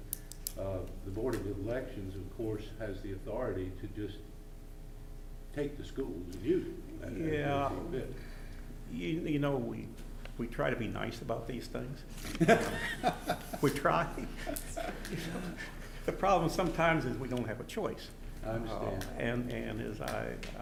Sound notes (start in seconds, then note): 12.2 laughing